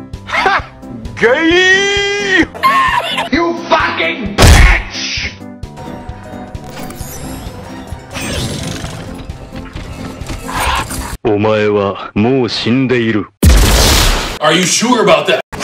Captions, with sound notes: Hah! GaaaaAAYYYY *horse-laugh* You FUCKING *thud* BITCH! Omae wa mou shindeiru! Are you sure about that?